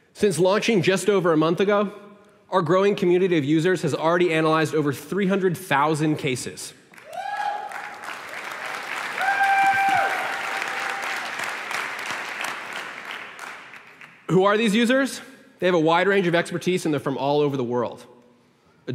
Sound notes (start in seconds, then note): 6.9 applause